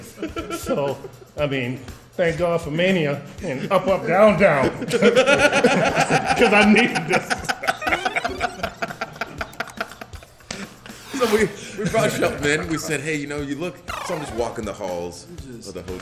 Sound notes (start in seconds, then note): 0.1 laugh; 5.1 laugh